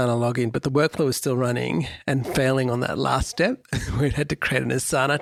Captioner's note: chuckles